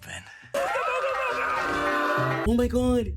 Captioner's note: screaming